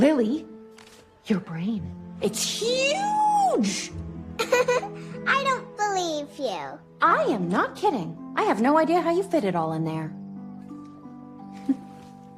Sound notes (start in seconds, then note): 4.4 laughs